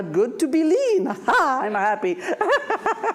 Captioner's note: laughs